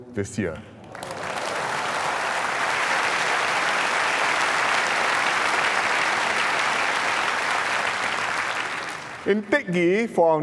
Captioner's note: applause